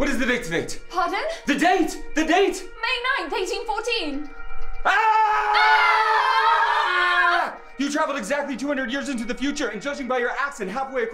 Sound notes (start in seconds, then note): 4.8 screaming